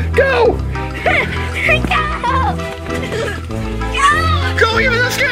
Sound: laughter

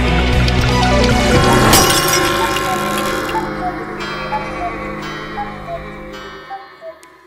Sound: glass breaking, cuckoo clock

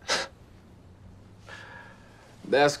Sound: Jake sighing

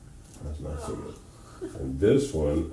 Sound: chuckles

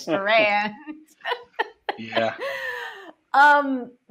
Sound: laughter

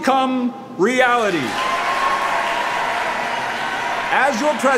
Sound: crowd cheering

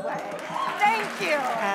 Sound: cheers and applause

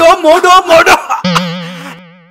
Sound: coughing

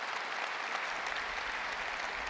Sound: applause

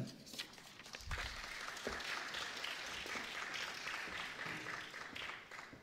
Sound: applause

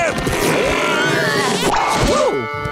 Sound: grunting

